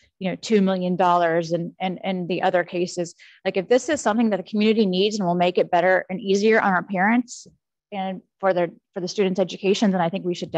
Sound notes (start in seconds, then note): none